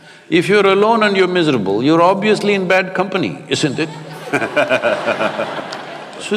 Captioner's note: laughter